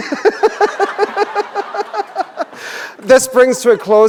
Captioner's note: chuckle